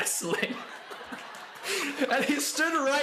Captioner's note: laughter